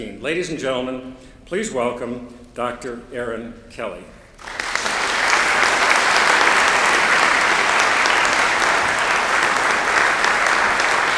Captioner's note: applause